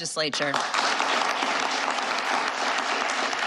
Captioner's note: applause